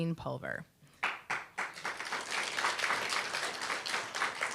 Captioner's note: applause